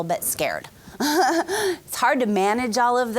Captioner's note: laughing